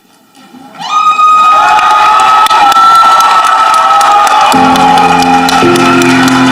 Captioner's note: upbeat instrumental music; audience applauding